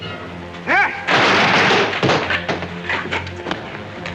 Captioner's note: crash; sinister music